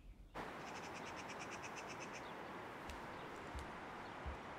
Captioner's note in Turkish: Kuş ötüyor